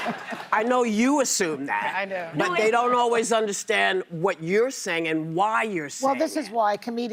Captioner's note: laughter